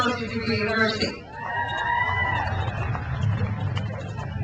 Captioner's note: crowd cheers